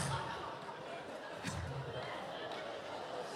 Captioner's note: laughs